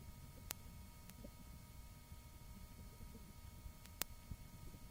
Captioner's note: clicking